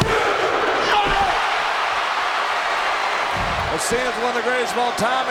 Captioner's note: crowd roaring